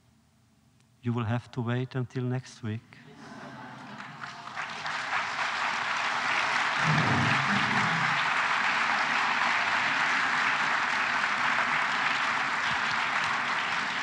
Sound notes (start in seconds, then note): 3.0 laughter; 3.7 applause